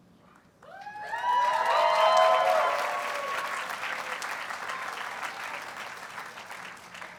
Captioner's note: audience cheers and applauds